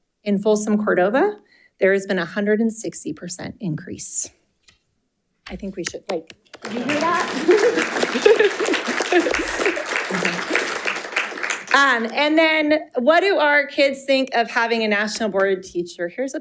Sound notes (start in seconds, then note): 6.5 audience applauding; 6.8 chuckling